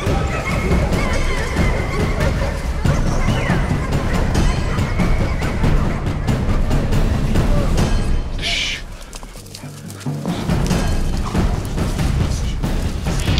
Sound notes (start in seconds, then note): 4.0 dogs barking; 4.0 dramatic music